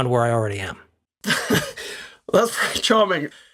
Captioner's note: laugh